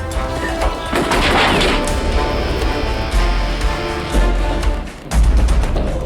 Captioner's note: screams